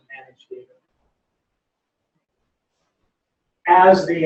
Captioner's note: pause